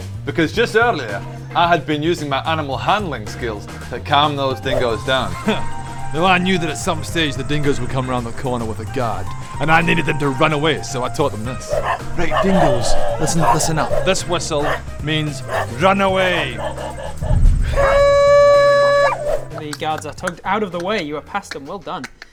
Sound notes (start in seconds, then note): 11.6 barking